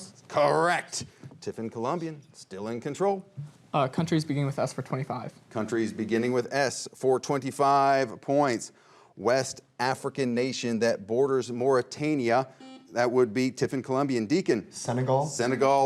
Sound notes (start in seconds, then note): 12.3 buzzer rings